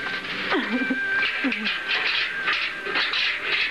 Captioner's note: chuckles